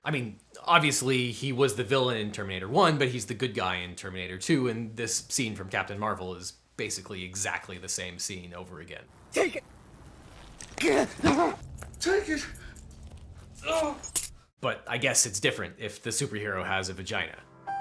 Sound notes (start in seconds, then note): 10.8 gasps; 13.6 grunts and keys jingle; 17.4 gentle piano music